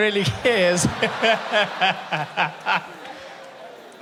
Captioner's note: laughing